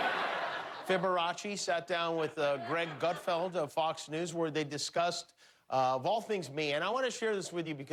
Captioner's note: laughter